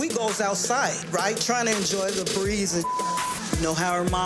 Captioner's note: beep